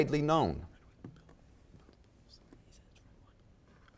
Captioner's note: whispering